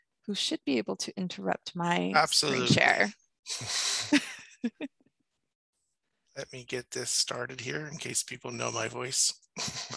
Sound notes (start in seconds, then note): 3.6 both chuckle; 9.6 chuckles